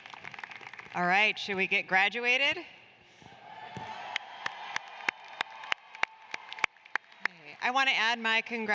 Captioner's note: cheers and applause